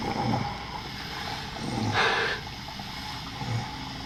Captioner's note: exhales